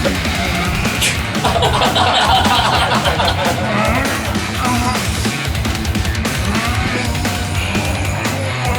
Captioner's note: Egashira is groaning